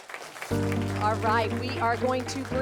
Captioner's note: crowd applauds